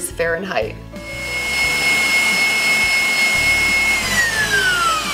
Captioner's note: mixer running noise